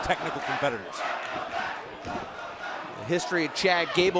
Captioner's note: fans chanting